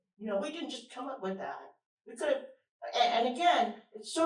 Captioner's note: none